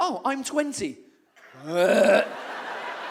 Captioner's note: wretching noise